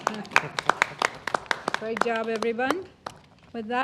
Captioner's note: applause